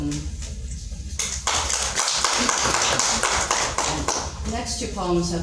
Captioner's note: audience clapping